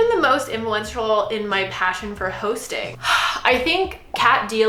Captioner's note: sighs